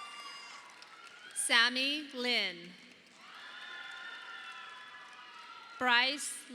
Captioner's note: audience applauding